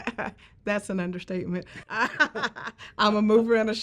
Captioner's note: laughs